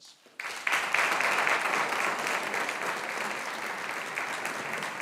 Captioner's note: audience applauding